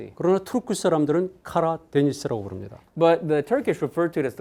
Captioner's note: speaking in Korean